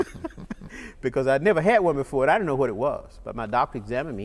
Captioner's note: laughter